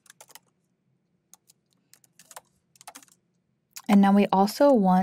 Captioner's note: keyboard clacking continues